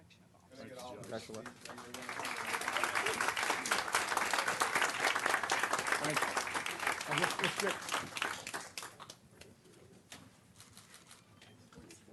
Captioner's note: clapping